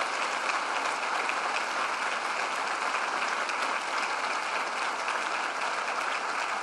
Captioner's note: applause